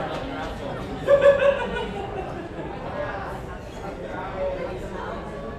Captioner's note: chuckles